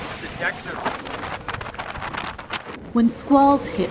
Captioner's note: wind drowns out audio